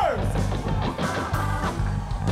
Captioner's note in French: cris d'enthousiasme